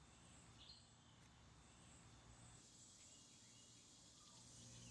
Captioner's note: birds chirping